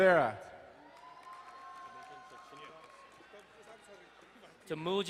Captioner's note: crowd cheering and applauding